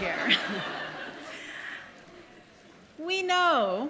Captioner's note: audience laughing